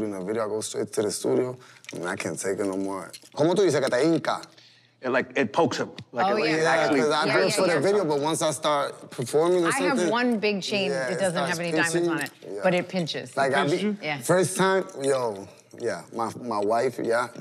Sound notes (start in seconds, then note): 3.6 speaking Spanish